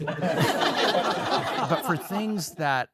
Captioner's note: all laugh